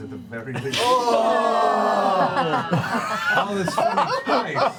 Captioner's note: groaning, laughter